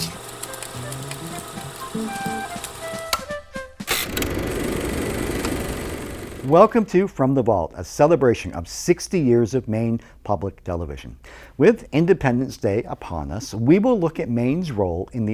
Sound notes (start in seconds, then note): 0.0 upbeat music; 1.7 projector clicking